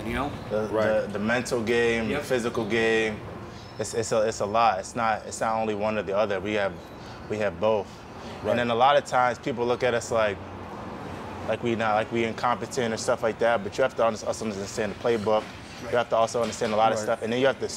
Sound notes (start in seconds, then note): none